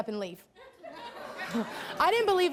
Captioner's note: laughs